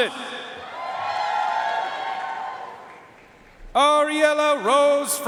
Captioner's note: audience cheering and applauding